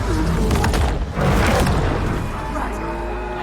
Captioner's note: creature roaring